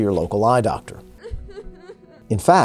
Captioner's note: person Crying